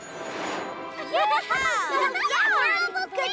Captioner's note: laughter